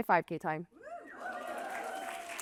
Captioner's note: coughs; applause and laughter